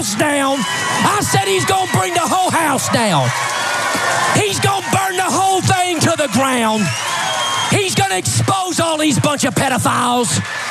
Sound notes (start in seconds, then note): 0.1 applause; 4.4 applause; 7.6 applause